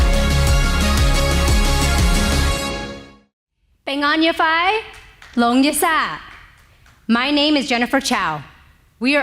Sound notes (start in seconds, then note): 3.8 speaking native language